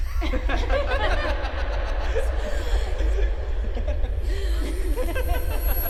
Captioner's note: echoing girl & boy laughing; discomforting rumble